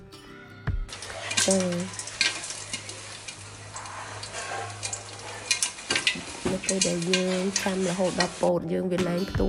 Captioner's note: sound of popping